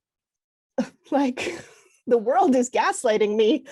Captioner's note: chuckles